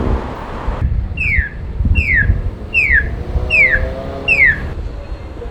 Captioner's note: roar of the stroad; the most annoying loud chirping sound